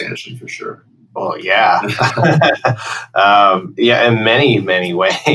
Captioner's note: laughter